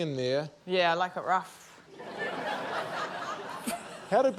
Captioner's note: laughter